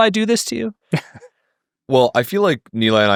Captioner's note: chuckling